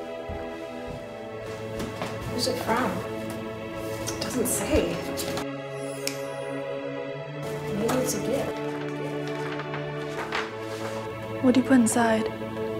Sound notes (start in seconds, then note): 6.0 fingers snap